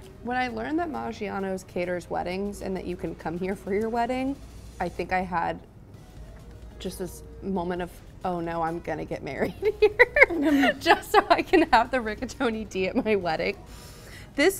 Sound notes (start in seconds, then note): 9.4 laughs